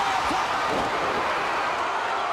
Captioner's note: crowd cheering